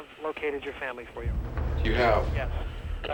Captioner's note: on phone